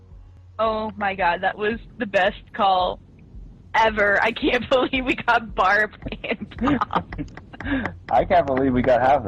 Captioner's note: laughter